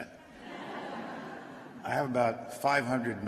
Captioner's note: laughter